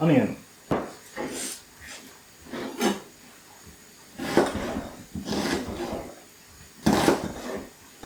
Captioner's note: onion chopping sounds